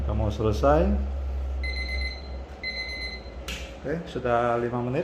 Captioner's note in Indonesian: suara beep